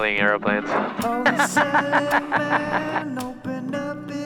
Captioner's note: laughs